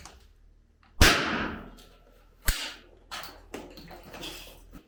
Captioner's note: banging sound